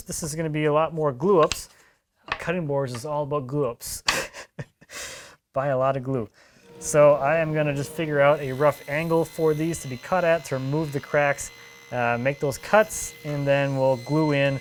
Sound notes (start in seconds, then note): 4.0 man laughs